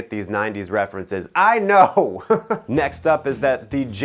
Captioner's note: laughing